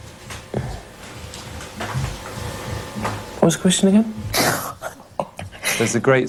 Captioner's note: laughter